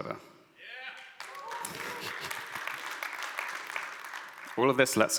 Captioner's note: audience applauds